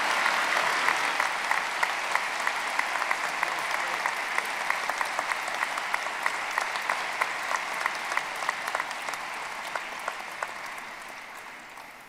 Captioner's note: applause